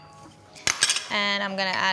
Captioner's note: bowl clatters